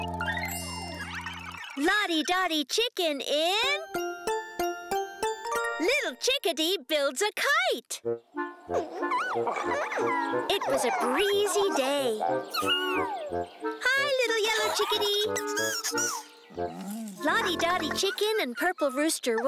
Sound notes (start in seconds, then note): 5.7 narrator reading; 8.7 squeaking; 12.5 squeaks excitedly; 15.3 squealing